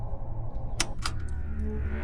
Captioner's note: button clicks; tense music